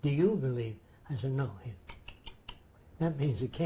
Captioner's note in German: dentales Klicken